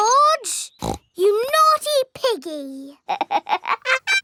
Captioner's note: snorts; laughs